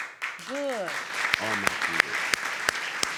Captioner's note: audience clapping